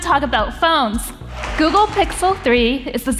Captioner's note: audience applauding